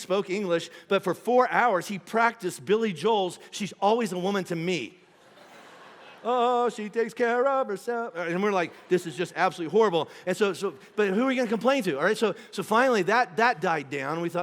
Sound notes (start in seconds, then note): 5.0 congregation laughing